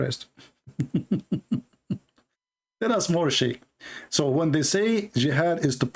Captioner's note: Ketawa